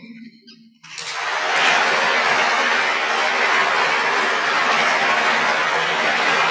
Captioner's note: applause